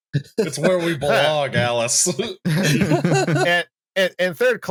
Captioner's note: laughter